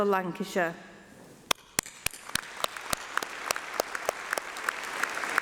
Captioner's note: applause